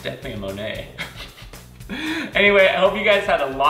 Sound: laughs

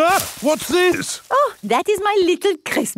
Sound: exclaims

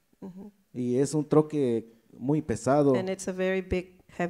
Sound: speaks in foreign language

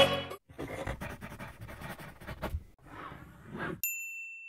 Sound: pencil scratches on paper; bell dings

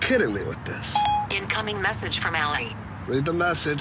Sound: beep-beep

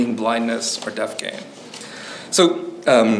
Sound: pages rustling

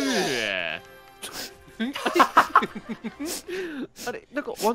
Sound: sniffles

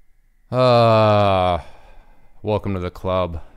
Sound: sighs

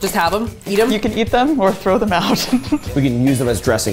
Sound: laughing

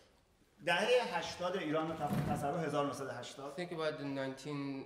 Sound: speaking in farsi

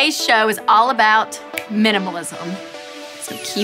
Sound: finger snapping

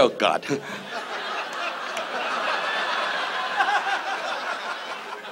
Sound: audience laughs

